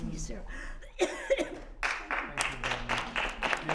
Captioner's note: applause